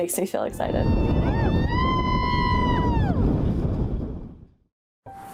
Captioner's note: cheering